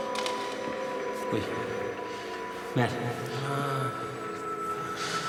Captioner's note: moans